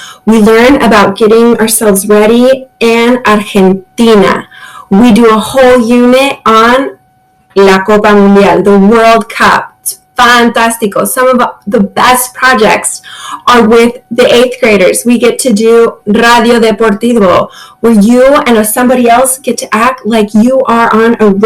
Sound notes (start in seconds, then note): 5.9 speaks in Spanish; 16.1 speaks in Spanish